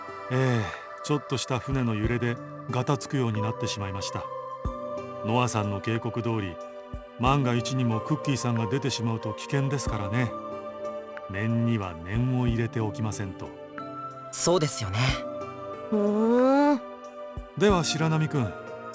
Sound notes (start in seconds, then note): 16.2 half-interested hum